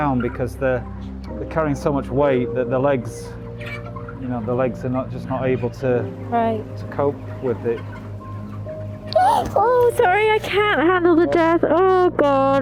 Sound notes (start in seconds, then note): 9.1 gasps